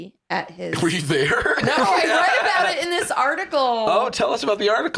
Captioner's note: laughing